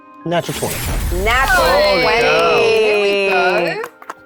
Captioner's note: players cheering